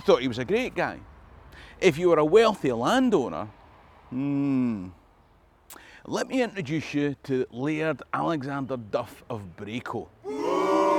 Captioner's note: booooo